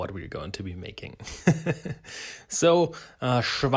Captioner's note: laughing